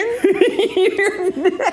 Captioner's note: laughs